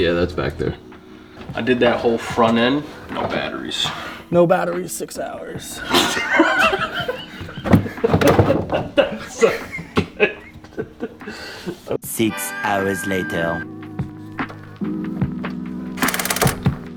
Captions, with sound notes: Yeah, that's back there. I did that whole front end. No batteries. No batteries, six hours. (laughing) Six hours later.